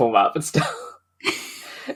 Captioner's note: laughs